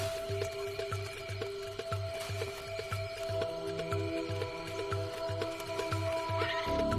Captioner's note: tense music continues; baboon squeals; baboons squealing